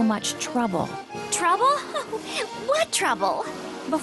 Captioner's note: chuckles